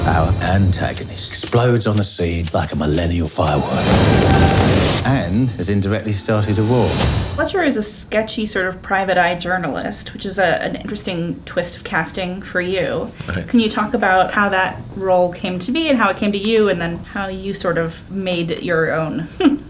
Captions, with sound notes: Our antagonist explodes on the scene like a millennial firework. (gunshots) And has indirectly started a war. - Fletcher is a sketchy sort of private eye journalist, which is an interesting twist of casting for you. - Right. - Can you talk about how that role came to be and how it came to you and then how you sort of made it your own.